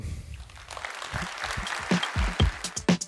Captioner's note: applause